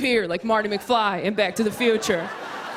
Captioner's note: laughter